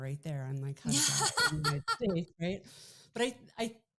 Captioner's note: laughing